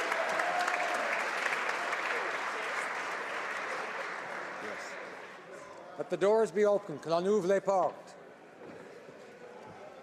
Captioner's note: applause